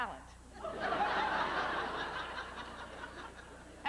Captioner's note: howling laughter